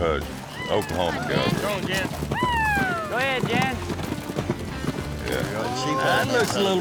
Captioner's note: cheering